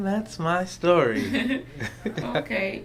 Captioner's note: laughter